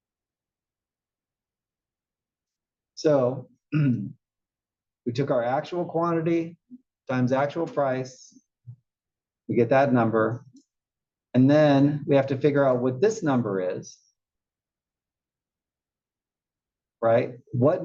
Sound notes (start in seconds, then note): 3.7 cough